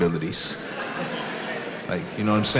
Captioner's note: audience laughs